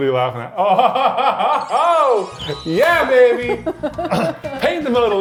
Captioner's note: laughs